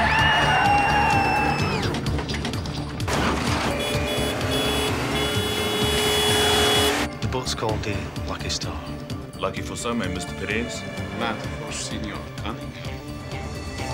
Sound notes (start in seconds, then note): 0.0 screaming and tires screeching; 3.6 horn honking; 5.2 engine revving